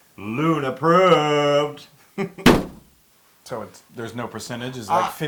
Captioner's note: laugh